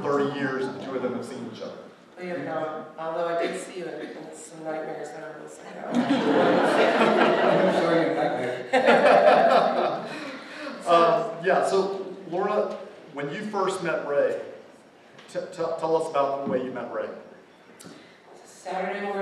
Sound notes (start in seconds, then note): 5.8 laughter